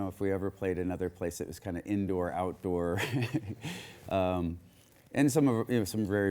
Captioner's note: chuckles